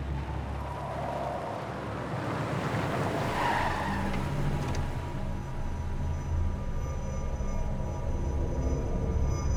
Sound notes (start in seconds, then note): 2.4 tire squeal